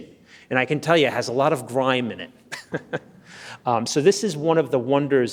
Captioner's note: laughs